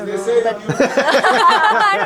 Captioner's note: laughing